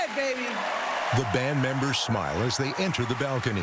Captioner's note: cheering and applause